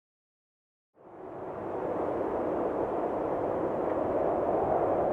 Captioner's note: wind swooshing